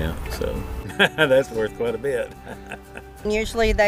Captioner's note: laughs